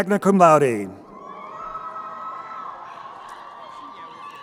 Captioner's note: crowd cheering